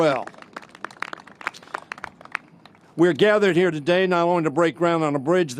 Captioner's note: applause